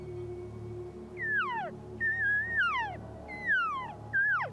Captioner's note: elk call bugles